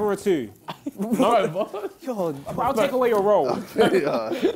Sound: crowd mumbling

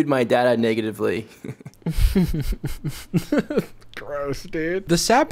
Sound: laughs

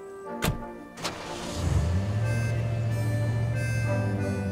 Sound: engine starts

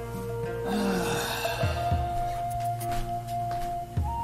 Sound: sigh

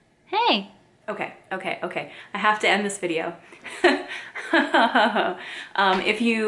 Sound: laughs

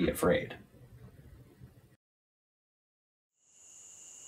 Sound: crickets chirping

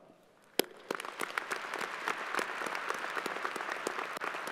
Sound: crowd applauding

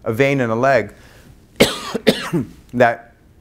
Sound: coughs

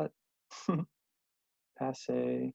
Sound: giggling

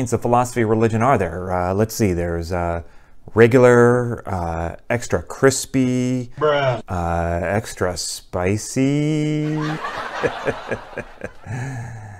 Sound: people laughing

